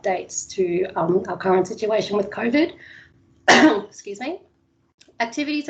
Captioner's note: coughs